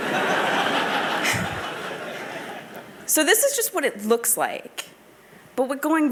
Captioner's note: laughter